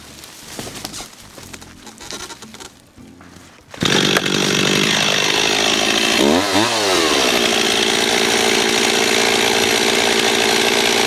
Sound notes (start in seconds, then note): 0.0 jack squeaking and leaves rustling; 5.5 chainsaw roaring